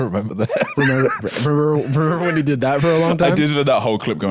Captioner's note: normal voice